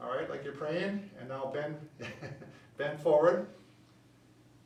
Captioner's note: chuckles